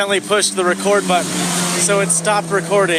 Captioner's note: car zooms loudly